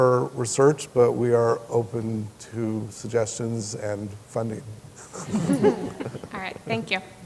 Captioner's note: chuckling